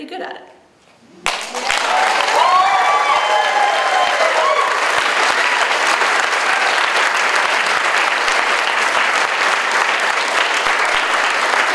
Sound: audience cheers and applauds

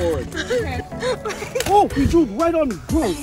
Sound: laughing

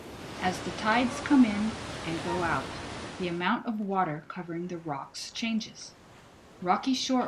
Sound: tidal sounds quiet

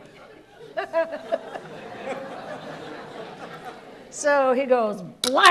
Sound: laughs; audience laughs

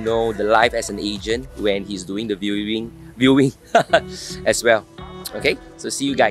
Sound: sighs

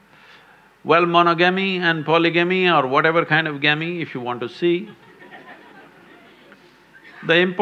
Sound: few Laugh

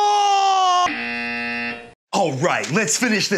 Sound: screams; buzzer buzzes

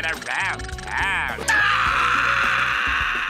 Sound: screaming

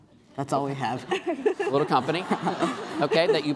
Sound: laughing

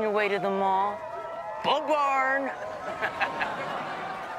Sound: chuckles

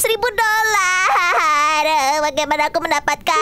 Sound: continued crying noises

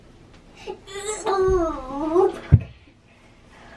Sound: groans

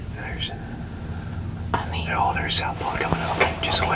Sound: whispering

